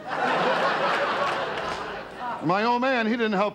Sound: audience laughter

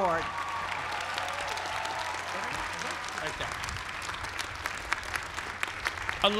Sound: applause

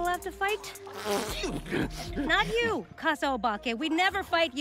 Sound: blows raspberry

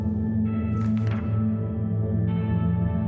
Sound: slide flips; gentle music

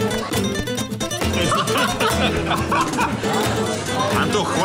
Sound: laughter

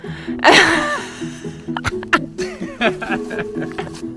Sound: speaking Romanian; laughing

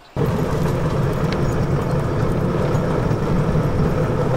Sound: vehicle rumbling

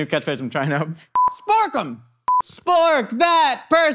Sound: video beeps

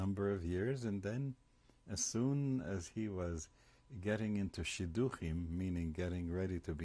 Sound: hebrew

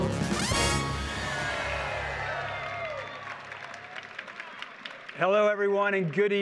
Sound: audience cheers and applauds

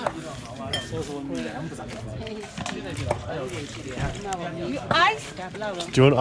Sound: talking in foreign language

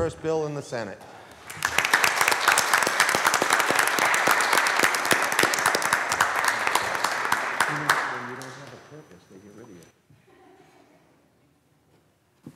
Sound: applause

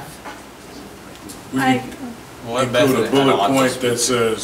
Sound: overlapping chattering

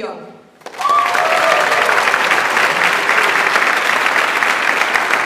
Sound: audience applauds

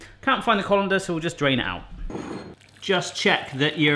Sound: none

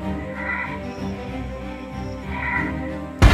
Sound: eerie sounds

